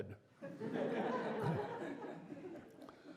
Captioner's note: laughter